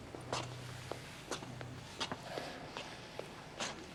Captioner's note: footsteps